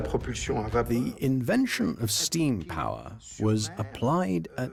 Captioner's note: voiceover